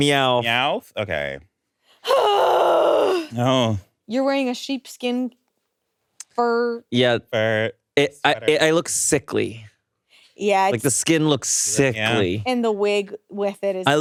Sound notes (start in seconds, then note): 2.1 grunts